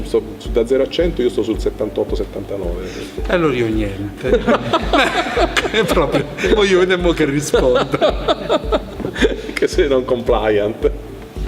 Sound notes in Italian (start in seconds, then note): 4.6 risate